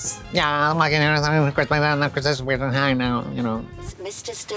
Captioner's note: Katya burbles